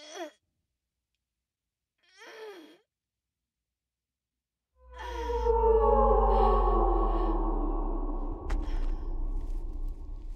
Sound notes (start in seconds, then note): 2.3 woman gasping; 4.8 dark tense music